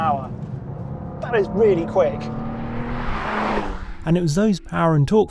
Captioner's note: vehicle revs